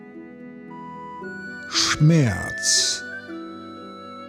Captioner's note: german